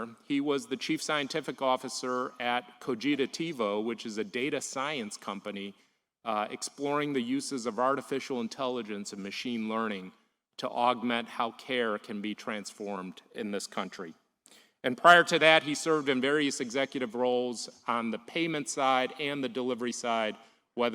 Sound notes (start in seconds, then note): none